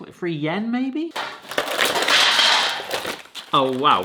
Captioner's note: chocolates thudding; tin rattling